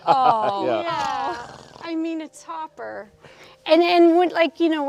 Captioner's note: David laughs